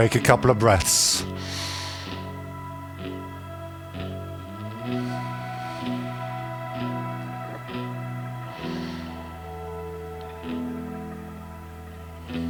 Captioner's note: breathing